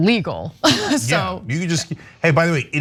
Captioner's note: laugh